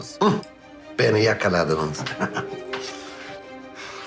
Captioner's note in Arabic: يضحك